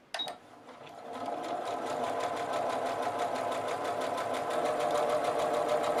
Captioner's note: sewing machine humming